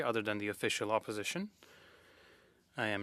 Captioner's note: speaking French